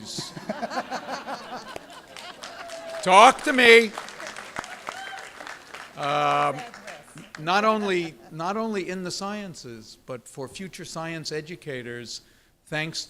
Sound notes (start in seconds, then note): 0.0 laughter; 5.1 applause